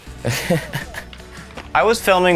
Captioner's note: laughing